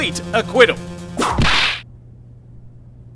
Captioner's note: whip crack!